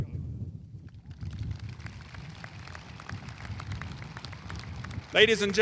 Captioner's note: audience applauding